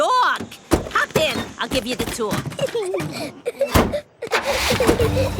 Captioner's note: Peppa and George laughing